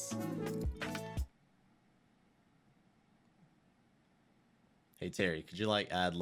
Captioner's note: silence